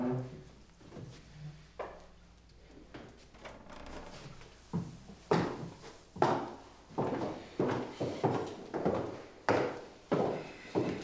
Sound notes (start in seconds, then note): 5.3 footsteps plodding